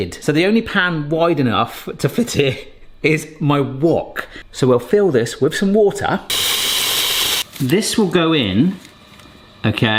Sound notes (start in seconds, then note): 6.3 faucet hissing